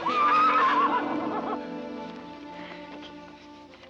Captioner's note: Danny whinnying